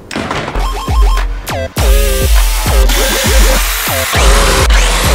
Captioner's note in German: Videospiel-Sounds